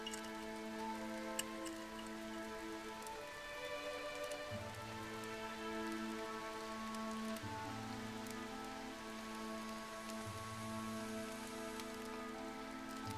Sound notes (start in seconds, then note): none